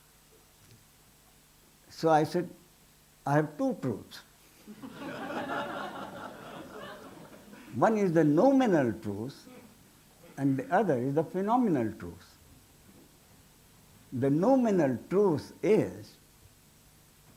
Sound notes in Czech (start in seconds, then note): 4.6 smích